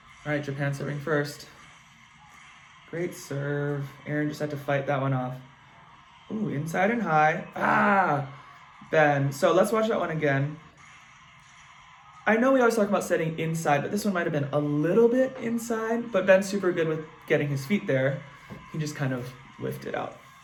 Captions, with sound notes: All right. Japan serving first. Great serve. Aaron just had to fight that one off. Ooh, inside and high. (grunts) Ben. So let's watch that one again. I know we always talk about setting inside but this one might have been a little bit inside, but Ben's super good with getting his feet there. He just kind of lifted up.